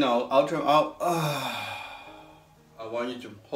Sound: exhales

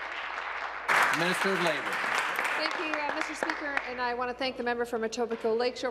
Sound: applause

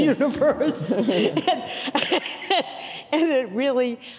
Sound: all laughing

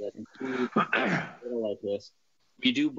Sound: clears throat

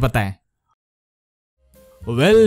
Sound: dumb Silence

